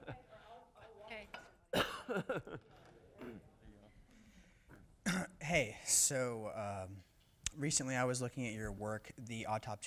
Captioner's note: laughter